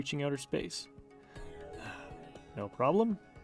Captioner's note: sigh